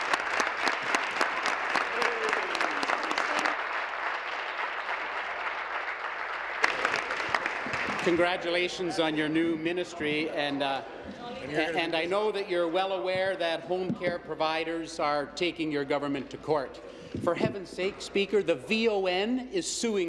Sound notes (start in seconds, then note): 2.6 applause